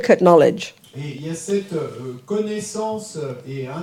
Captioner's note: audience member speaks in French